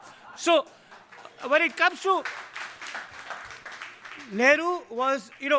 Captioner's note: audience clapping